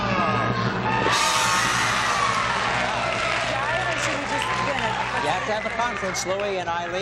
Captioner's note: cheering